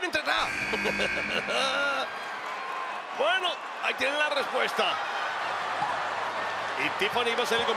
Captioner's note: laugh